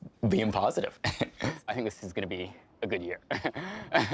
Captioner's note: chuckling; laughing